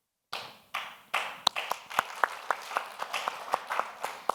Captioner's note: audience applauds